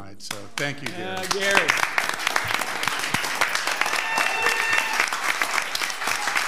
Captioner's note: audience applauding